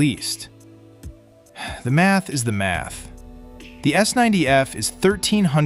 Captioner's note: sighs